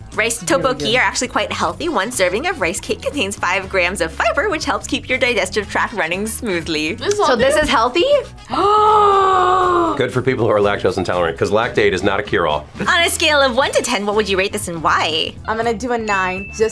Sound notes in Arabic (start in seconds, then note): 8.5 شهقة